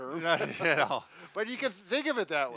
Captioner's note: laughing